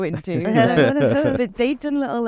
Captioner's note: everyone laughs